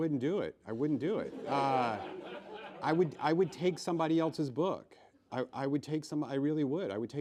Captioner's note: laughs